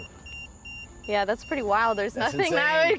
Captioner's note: EMF beeping